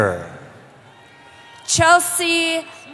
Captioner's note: cheering